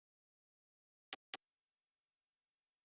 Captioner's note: click